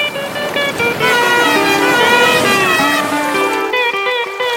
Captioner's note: cars submerging